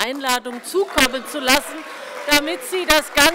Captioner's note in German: Beifall bei der CDU und dem BÜNDNIS 90/DIE GRÜNEN